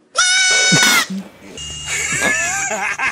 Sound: laugh; snort

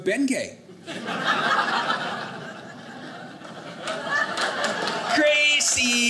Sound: audience laughing

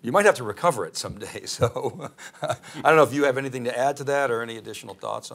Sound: laughs

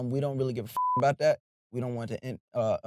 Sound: beep

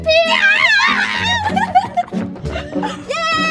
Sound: screams

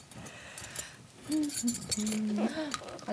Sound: humming

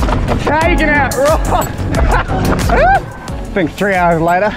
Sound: laughs

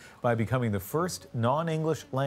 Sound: speaking foreign language

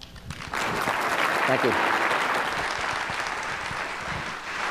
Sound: applause

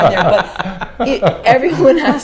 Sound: laughs

